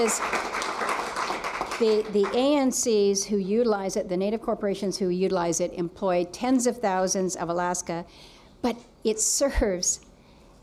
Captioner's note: applause